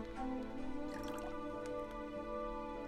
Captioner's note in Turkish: Sıvı dökülme sesi